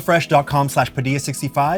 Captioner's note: none